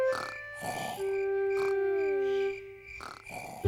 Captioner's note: george snoring